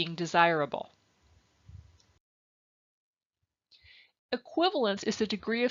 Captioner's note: silence